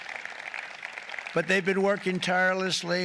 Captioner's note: applause